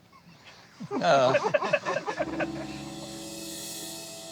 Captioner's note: laughter